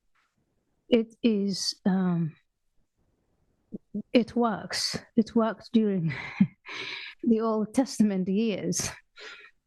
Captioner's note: laugh